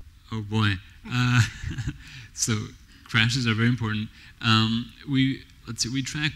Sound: laughs

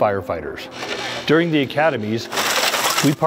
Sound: glass shattering

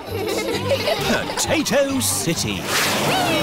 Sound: all giggling

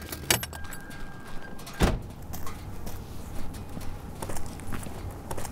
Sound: engines off. Flies buzzing

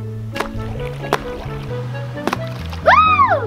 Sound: water splashes

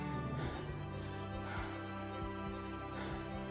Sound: hearts beating steadily

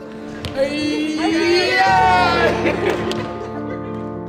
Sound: cheering and laughing

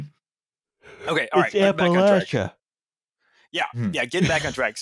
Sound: yawns

